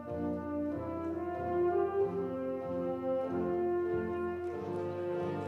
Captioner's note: audience chattering